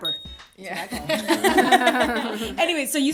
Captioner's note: laughter